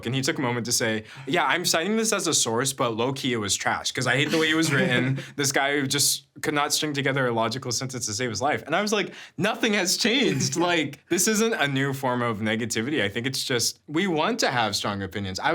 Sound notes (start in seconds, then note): 4.3 chuckling